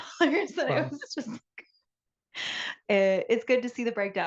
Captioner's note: laughs